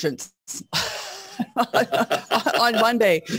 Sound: laughing

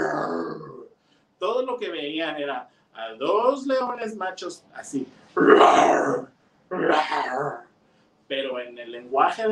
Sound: roars

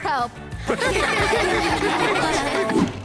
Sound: laughing

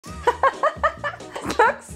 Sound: laughs loudly

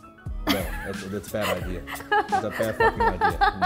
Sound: laughs

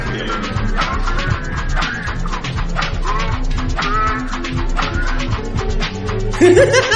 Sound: Celestial Sonic Laughs

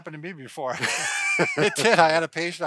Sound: both laughs

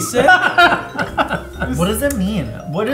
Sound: laughs

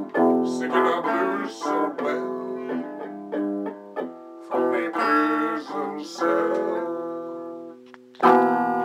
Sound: sniff

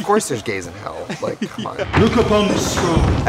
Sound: laughing

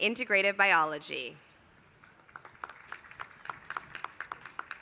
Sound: applause

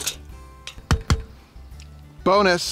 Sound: knocking

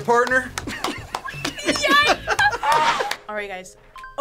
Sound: both laugh

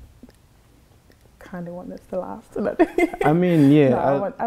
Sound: laughs

